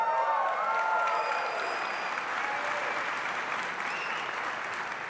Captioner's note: crowd cheering and applauding